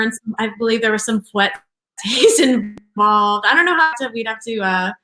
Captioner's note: laughs